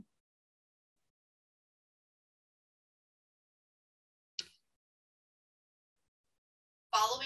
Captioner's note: silence